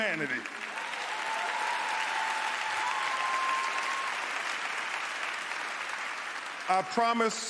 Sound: cheers, applause

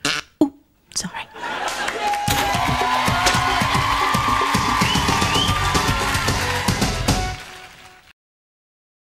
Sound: crowd applause, end of sketch

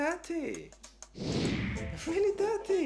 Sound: swoosh

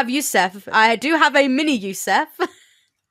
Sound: laughs

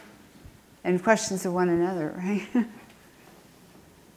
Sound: laughs

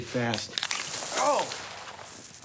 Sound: drink spurting

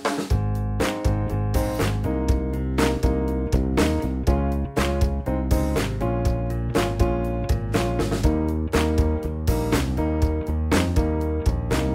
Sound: clapping

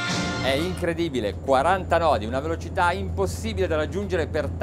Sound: speaking Italian

